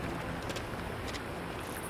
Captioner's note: footsteps